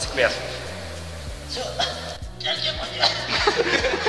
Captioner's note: ughhghghg